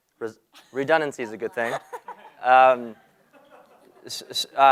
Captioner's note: laugh